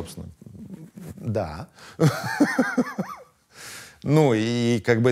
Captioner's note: laughs